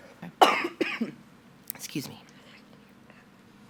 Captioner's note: coughs